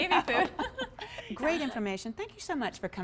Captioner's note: laughter